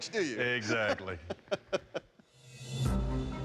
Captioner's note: laughs